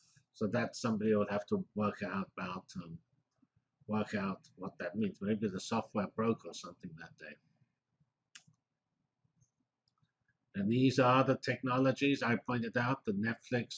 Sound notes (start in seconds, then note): 7.7 pause